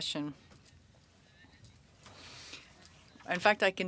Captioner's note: speaking French